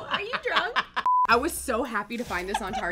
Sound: short beep

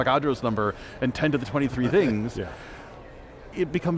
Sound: laughing

